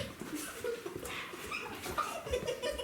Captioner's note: giggling